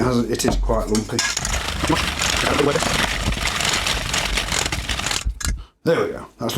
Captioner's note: sped-up whisking